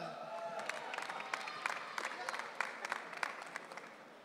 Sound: audience cheering

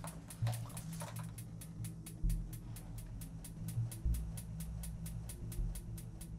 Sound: the pilot light clicks over and over

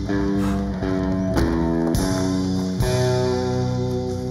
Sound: exhales

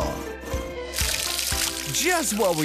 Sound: water Splashing

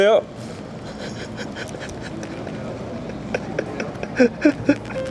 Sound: chuckling

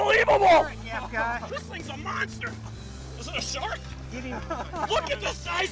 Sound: laughing

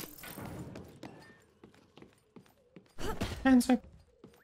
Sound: player walking close

